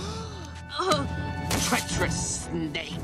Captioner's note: gasps